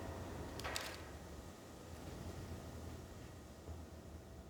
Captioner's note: camera clicks